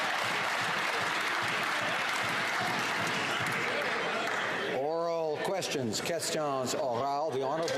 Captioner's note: some Applause